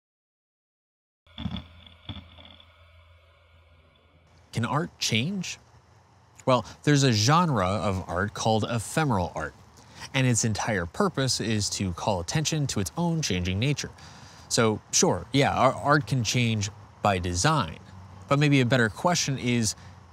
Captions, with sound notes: [grinding] Can art change? Well, there's a genre of art called ephemeral art, and its entire purpose is to call attention to its own changing nature. So, sure, yeah, art can change by design, but maybe a better question is